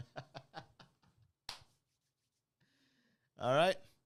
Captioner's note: laughing